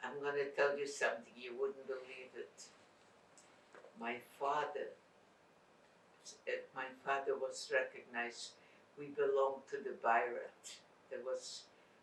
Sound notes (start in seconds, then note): 10.3 non-english